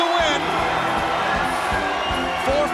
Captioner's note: crowd cheering; bell ringing